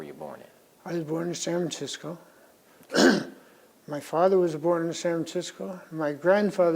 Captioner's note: clears throat